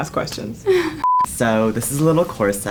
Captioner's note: laughs